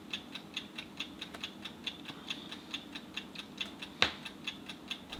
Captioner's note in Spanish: reloj haciendo tic tac